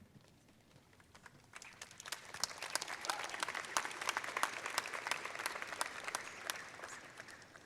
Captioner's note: applause